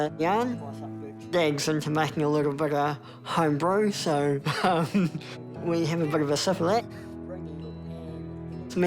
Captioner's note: chuckles